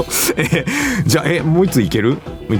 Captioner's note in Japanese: 笑い